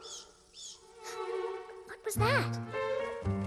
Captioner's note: screeching